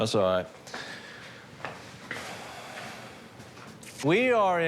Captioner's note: deep breath